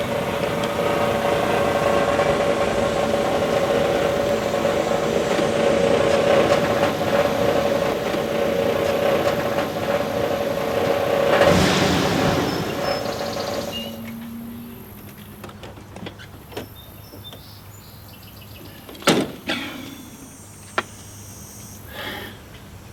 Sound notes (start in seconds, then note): 16.1 birds chirping; 19.3 car door slams; 21.9 Jake sighs